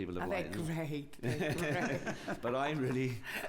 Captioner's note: laughter